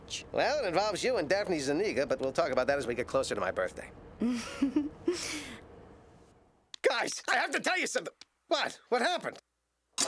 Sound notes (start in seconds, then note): 4.2 chuckles